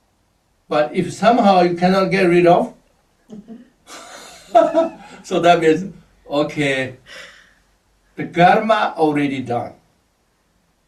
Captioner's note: laughs